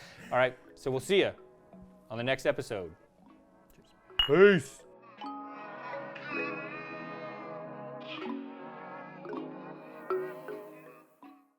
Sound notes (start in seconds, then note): 4.2 glasses clinking; 5.9 gentle music